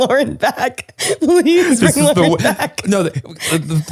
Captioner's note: laughing